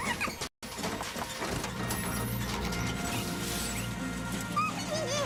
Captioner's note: laughshs